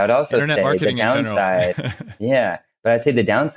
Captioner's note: laughs